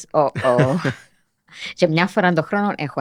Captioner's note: he laughs